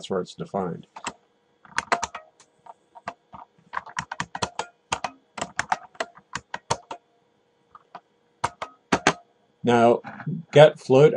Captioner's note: typing